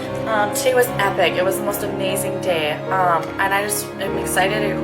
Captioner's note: speaks softly